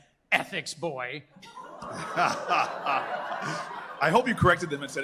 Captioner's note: laughter